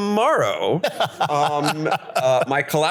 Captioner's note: laughs